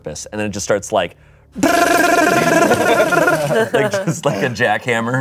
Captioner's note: imitates jackhammer whir